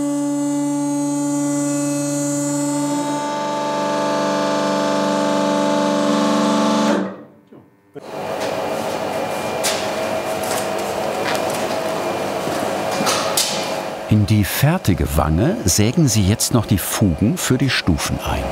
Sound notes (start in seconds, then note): 3.5 high-pitched roar; 6.6 the machine falls silent; 8.6 quiet machine noise